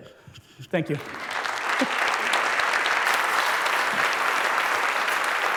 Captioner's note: applause